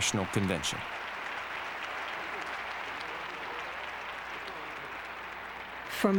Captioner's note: applause